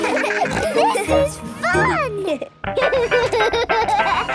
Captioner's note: giggles, snorts; giggling